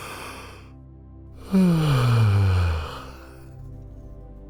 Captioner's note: yawn